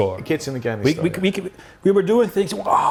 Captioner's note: roaring